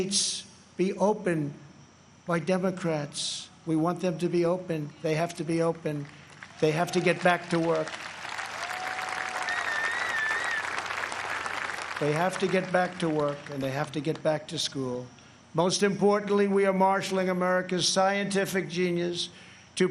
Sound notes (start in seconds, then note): 12.0 applause